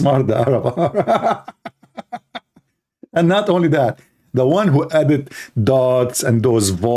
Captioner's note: Ketawa